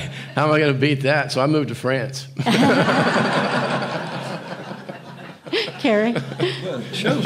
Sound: audience laughing

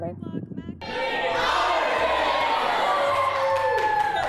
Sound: group yelling

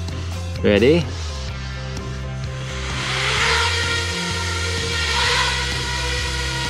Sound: engine sound

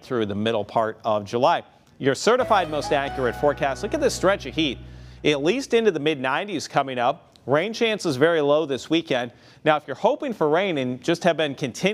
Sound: chimes

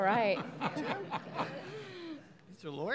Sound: laughing

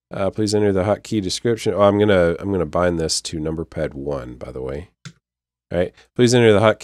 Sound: click

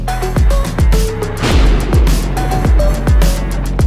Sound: thunder crashes; upbeat music

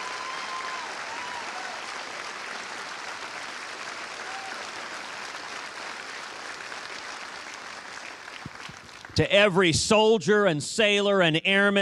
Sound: cheers and applause

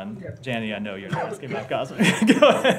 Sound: laughter

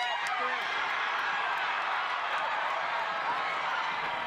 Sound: cheering

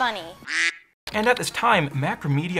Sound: duck quacks

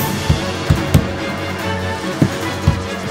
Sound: banging

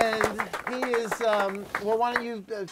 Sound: applause

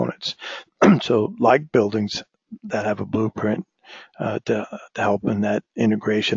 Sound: cough

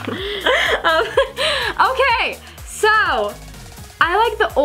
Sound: laughs

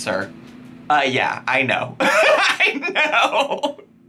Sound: laughing

